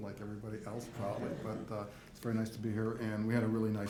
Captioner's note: audience laughs